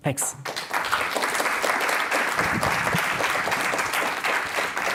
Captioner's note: applause